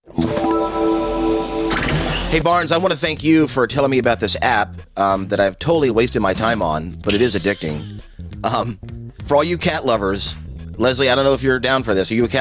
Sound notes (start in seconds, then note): 0.0 electronic bell rings